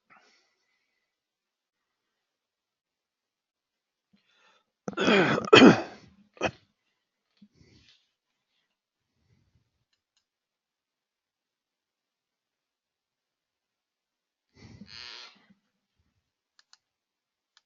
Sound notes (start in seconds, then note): 4.8 cough